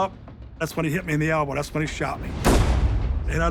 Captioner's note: gunshot